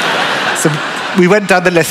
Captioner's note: laughter